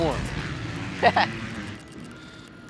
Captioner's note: chuckles